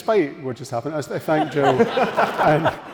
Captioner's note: audience laughing